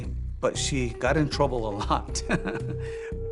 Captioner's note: chuckles